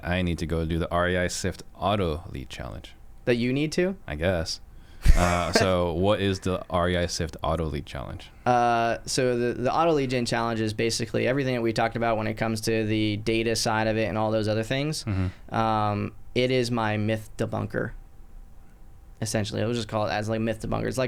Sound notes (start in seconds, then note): 5.0 laughs